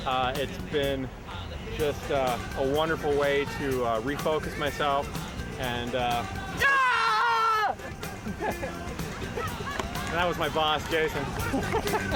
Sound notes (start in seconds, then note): 6.4 shouting